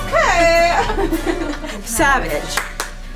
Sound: laughs

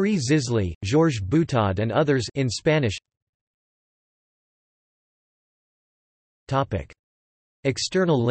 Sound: in Spanish

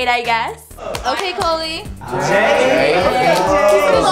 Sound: housemate clapping

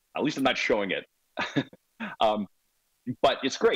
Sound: laughs

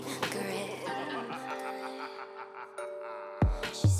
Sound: evil laugh

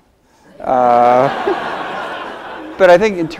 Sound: audience laughs

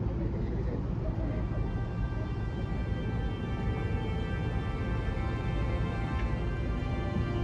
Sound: laughs

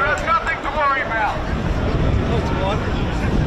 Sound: crowd noise

